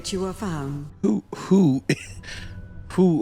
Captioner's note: small laugh